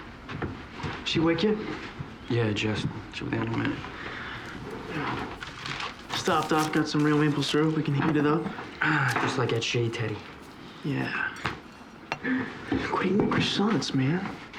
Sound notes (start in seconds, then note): none